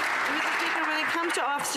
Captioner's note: some Applause